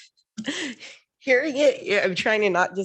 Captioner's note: laughs